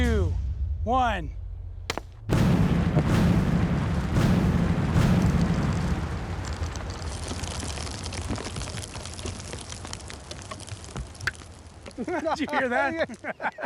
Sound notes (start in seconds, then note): 1.3 thud; 1.8 explosions; 8.3 rocks clunking